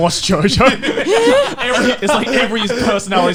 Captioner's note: laughs; sighs